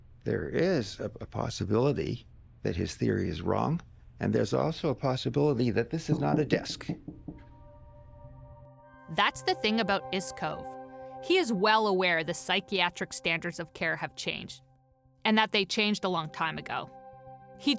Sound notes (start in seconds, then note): 6.7 knocking on desk; 7.4 theme music playing